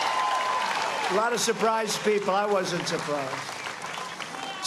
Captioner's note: cheers and applause